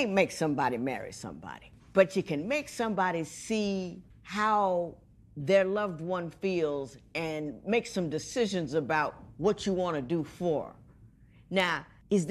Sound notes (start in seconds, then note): none